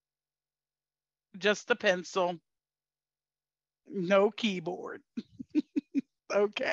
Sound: laughs

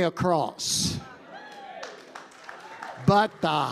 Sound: congregation cheering and applauding

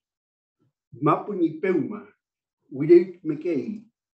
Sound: non-english speech

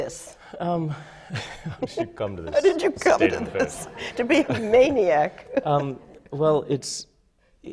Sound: laughter

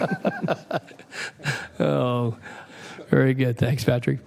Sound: laughter

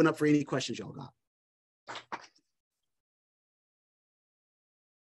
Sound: applause

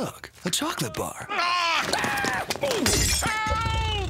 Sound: screams

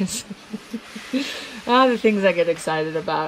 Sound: laughing

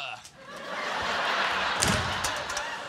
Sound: laughter

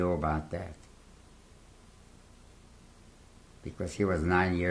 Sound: pauses for 3 seconds

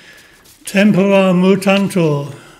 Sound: non-english speech

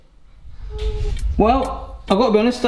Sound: whooshing

